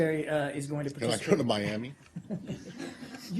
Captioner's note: laughter